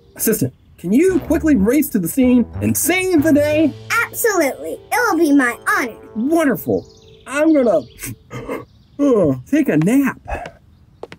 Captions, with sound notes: - Assistant, can you quickly race to the scene and save the day? - Absolutely! It'll be my honor. - Wonderful. I'm gonna (yawns) take a nap.